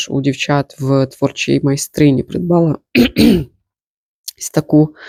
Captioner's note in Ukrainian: прочищення горла